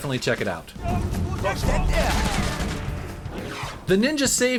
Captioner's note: game sounds